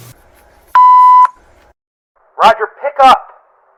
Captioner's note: answer machine beeps